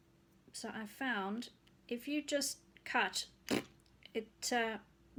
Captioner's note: pbbt